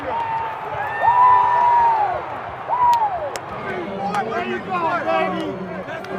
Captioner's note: players cheering